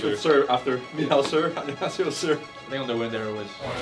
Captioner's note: laughs